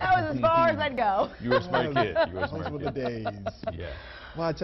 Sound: laughter

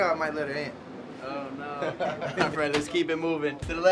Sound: laughing

